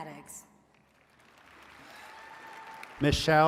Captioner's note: attendees cheering and clapping